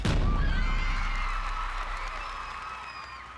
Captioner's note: crowd cheering